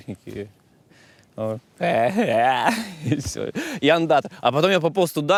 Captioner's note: makes silly noises